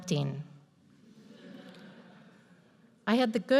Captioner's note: audience laughs